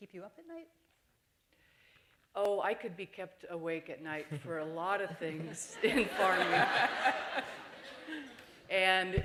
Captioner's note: laughter